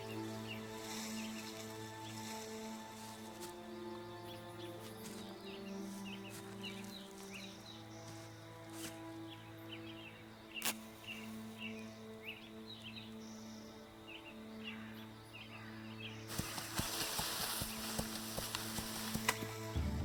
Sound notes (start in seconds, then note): 0.1 curious music; 5.8 leaves rustling; 9.9 birds chirping; 9.9 curious music; 14.6 birds cawing; 16.1 foliage rustling